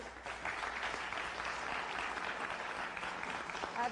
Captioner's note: applause